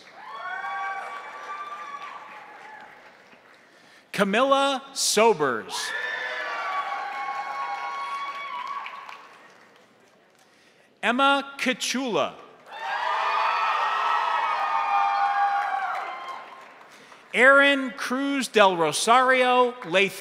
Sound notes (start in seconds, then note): 0.0 crowd cheering; 0.0 crowd applauding; 5.7 crowd cheering; 5.9 crowd applauding; 12.6 crowd applauding; 12.6 crowd cheering